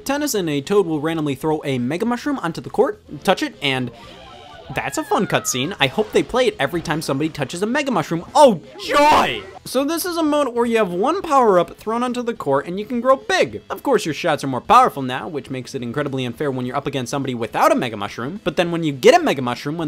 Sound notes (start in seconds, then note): 3.6 Mario level up sound